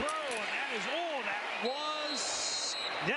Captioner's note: football broadcast